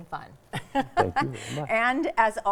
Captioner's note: laughing